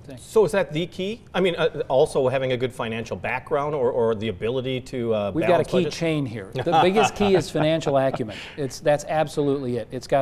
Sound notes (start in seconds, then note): 6.5 laughing